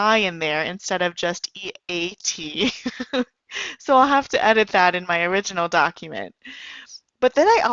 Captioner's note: giggles